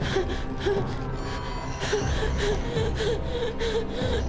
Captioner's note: Claire gasping